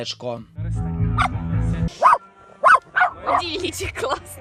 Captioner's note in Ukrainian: собака гавкає